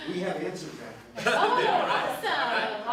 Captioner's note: laughs